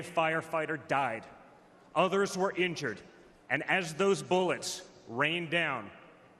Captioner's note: none